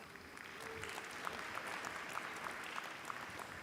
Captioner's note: applause